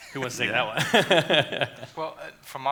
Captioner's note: laughs